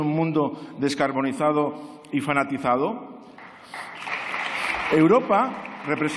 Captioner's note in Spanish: Aplausos